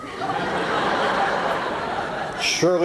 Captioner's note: laughter